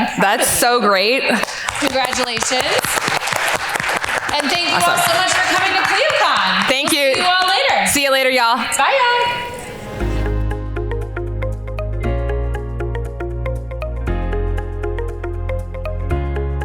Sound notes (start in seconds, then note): 1.3 all applaud; 10.0 soft upbeat music